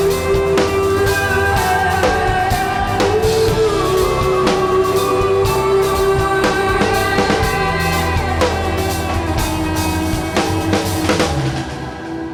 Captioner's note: audience clapping and cheering